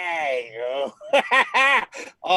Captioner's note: laughing